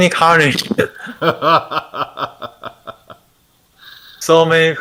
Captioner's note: laughter